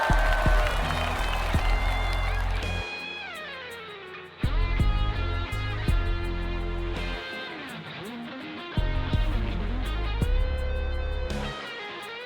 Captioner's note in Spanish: aplausos; ovación